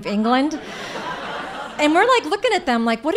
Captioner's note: audience laughing